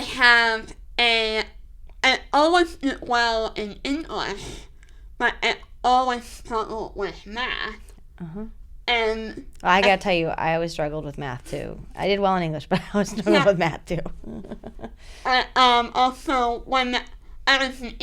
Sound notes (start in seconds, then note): 13.8 laughter